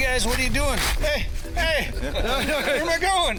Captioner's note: crew laughs